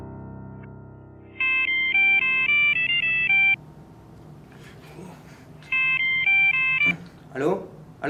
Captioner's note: the sound of a ringing telephone